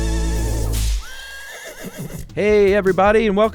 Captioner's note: horse neighing